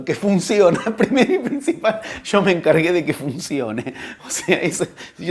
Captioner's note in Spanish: risas